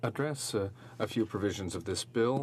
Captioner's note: speaking French